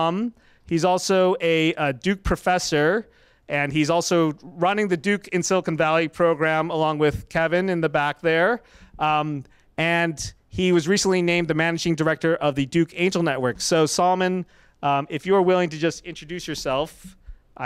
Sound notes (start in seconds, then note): none